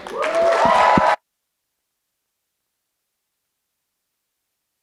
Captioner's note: audience applauding